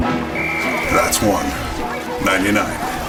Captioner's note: whistle trilling